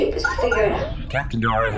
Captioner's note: incoming-transmission noise